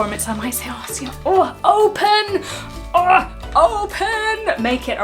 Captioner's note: grunts